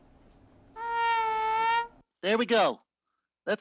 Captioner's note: honks